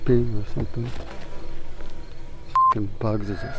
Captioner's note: insect buzzing